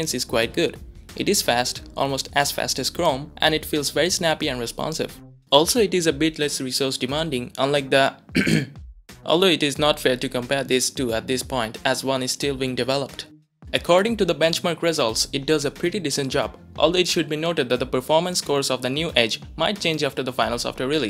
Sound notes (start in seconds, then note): 8.3 ahem, ahem